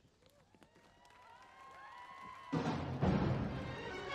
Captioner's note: audience applauding; audience cheering; dramatic music